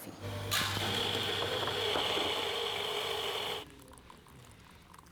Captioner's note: machine whirring